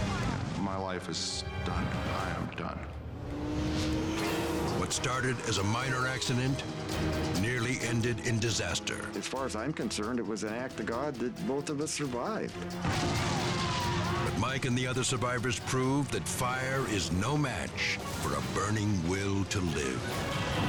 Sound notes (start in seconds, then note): 12.8 explosion booming; 13.2 people exclaiming